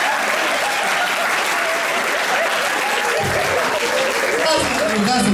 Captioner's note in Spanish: aplausos